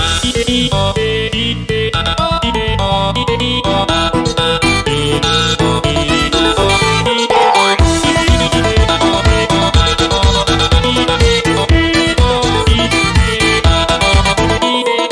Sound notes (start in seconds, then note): 7.2 boing